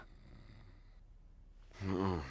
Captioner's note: murmuring